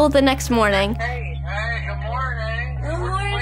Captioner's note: male Speaker On Phone